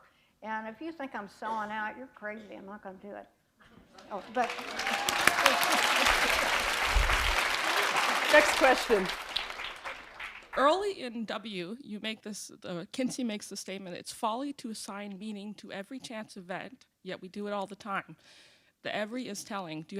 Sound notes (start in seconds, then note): 7.7 applause